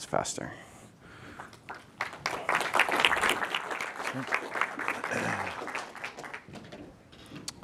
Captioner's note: applause